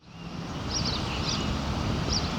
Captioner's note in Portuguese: pássaros cantando